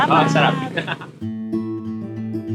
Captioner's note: laughs